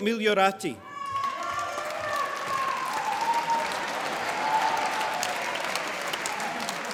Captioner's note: applause